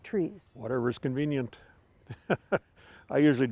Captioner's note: laughing